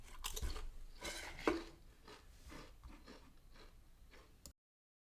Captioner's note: Pringles being chewed